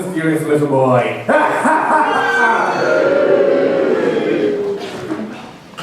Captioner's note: evil laughter, booing